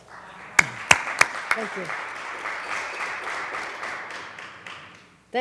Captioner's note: applause